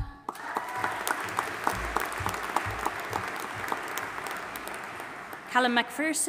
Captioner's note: audience applauding and cheering